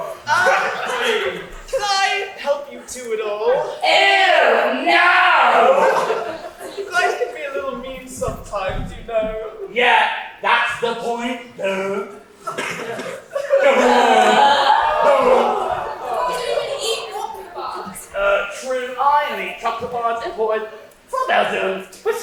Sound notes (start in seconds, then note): 13.4 audience awwws; 13.6 Colin cries